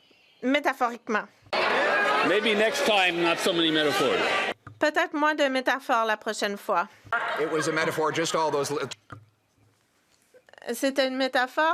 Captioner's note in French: voix de l'interprète